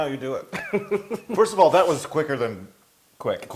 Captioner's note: laugh